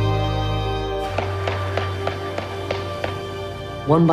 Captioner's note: gavel striking